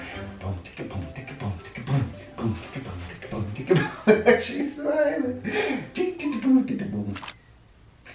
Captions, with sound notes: - (beat boxing) There she's smiling.